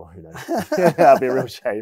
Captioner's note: laughing